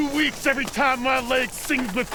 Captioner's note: fire crackles